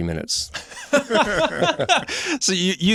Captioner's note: laughter